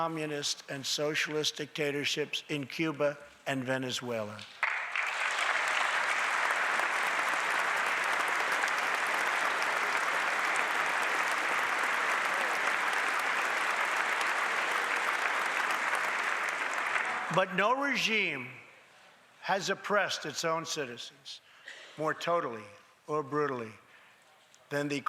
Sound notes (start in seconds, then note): 9.1 applause